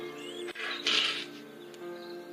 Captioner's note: sniffles